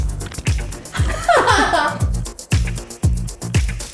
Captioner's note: laughing; upbeat music